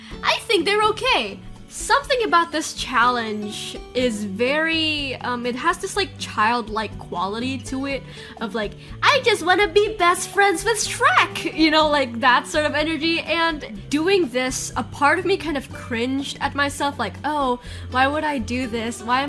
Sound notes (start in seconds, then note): none